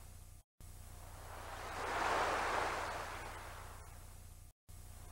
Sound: water continues cascading

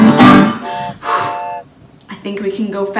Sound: train honks

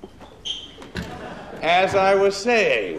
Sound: scattered laughter

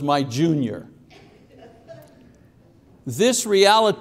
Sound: congregation laughing

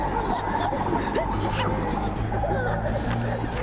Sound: sneezes

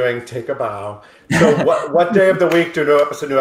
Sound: group laughs

